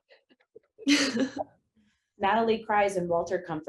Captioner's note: laughs